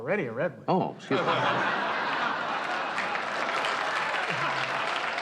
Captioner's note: audience laughs